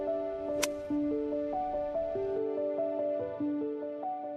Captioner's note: golf club hitting ball; evocative music